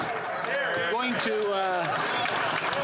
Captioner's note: applause